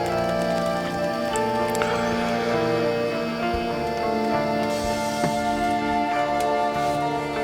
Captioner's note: somber music continues; Addison puffs